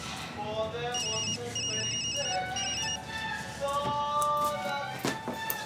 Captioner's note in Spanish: Suena teléfono